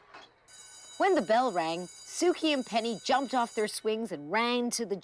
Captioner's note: school bell ringing